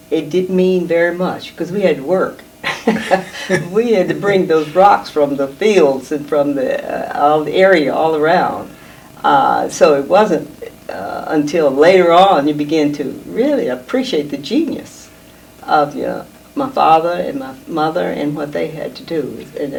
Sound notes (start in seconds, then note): 2.6 laughing